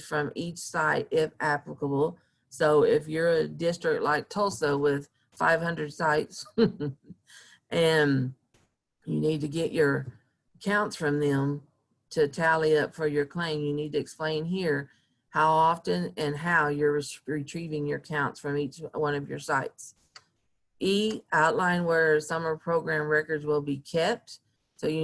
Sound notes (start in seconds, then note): 6.5 chuckling